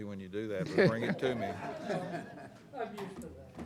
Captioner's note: all laughing